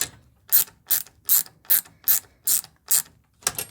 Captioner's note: ratchet clicking